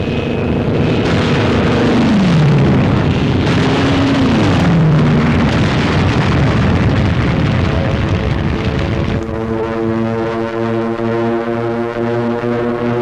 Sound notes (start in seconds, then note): 0.6 explosions; 9.3 planes flying